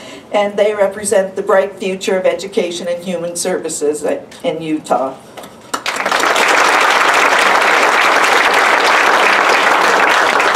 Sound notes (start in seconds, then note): 5.7 applause